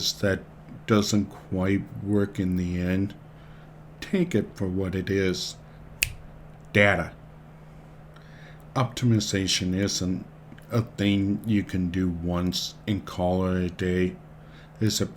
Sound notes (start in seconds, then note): 6.0 snaps